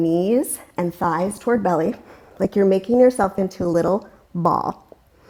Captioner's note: deep breathing sounds